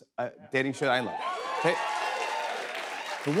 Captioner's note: cheers and applause